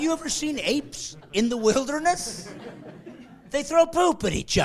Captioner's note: laughing